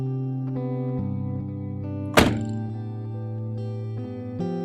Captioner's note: none